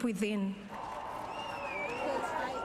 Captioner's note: whistling